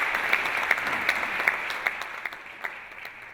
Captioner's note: applause